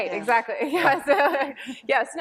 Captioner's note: laughter